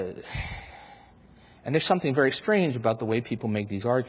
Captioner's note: sighs heavily